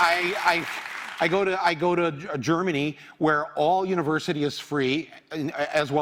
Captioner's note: applause